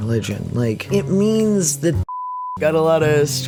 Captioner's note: beep